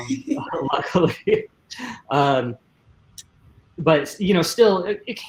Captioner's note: spaeaker laughing